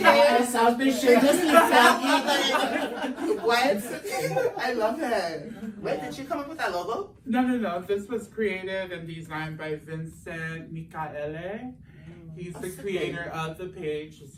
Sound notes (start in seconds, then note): 3.1 everyone laughs